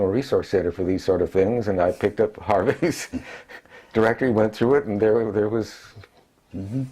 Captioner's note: laugh